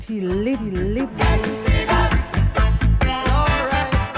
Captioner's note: water sounds